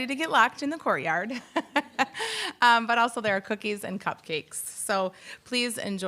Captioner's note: laughs